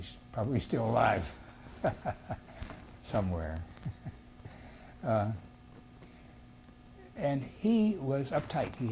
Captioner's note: laughs